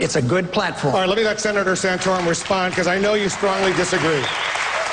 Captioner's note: applause